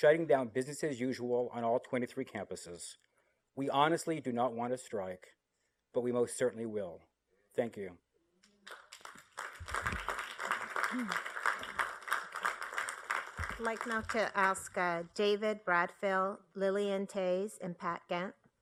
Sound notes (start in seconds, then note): 8.6 applause